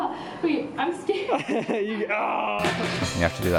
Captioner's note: laughing